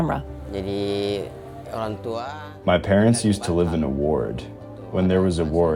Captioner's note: speaking in Bahasa Indonesia